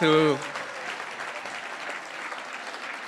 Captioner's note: applause